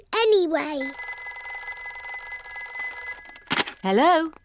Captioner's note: phone rings